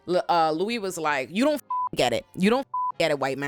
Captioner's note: beep